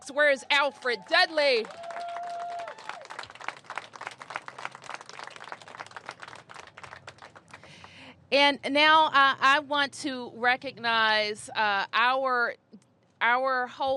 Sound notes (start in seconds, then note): 4.8 applause